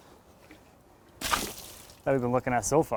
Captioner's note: water splashing